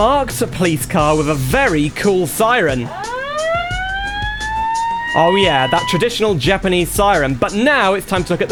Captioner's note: japanese Siren